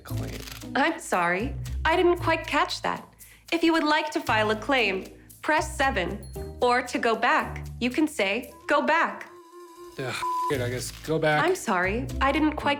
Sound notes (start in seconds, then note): 10.2 beep